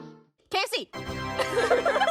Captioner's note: laughter